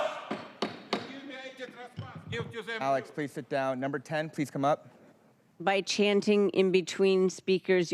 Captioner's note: crowd chanting